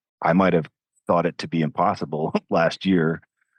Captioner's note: chuckles